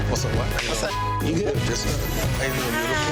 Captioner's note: beep